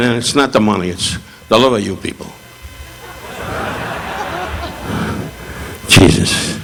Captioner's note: audience laughing